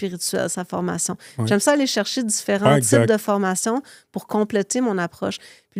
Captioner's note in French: raclement de gorge